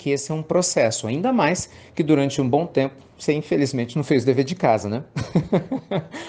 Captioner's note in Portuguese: Risos